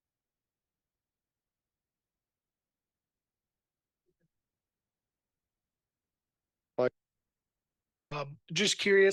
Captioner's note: audio cuts out